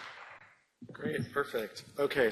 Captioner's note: applause